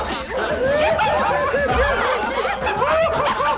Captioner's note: laughter